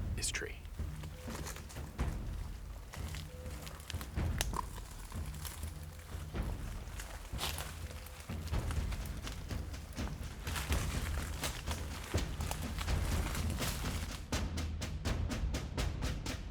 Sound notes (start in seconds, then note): 2.1 powerful drumming; 3.9 twigs and leaves crunching